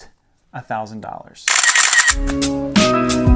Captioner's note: camera clicks; upbeat music